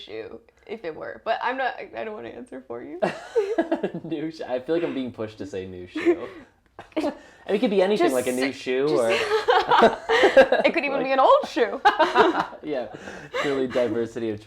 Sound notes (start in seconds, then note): 8.9 laugh; 12.9 laugh